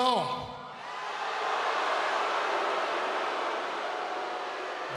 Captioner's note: audience gasping